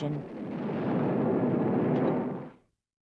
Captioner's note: explosion